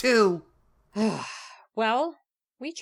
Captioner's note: Album sighs